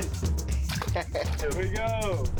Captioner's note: laughing